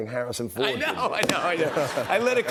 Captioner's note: laughter